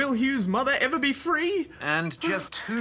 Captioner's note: laughs